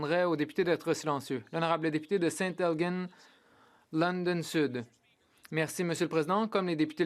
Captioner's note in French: voix de l'interprète